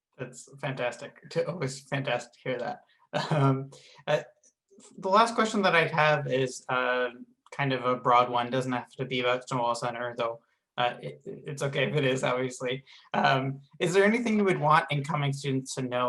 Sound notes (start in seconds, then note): 3.1 laughs